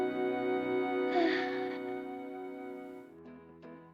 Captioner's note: sighs